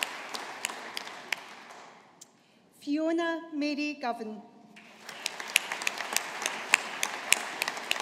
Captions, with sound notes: Fiona Mary Govan. (AUDIENCE APPLAUDING)